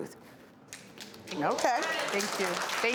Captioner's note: audience claps